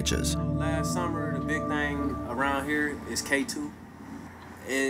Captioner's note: man speaking